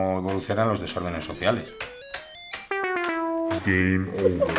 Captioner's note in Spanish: Voz en off